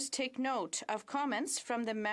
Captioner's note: speaking French